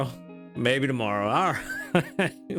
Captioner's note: laughs